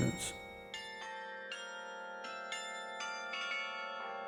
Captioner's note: bells chiming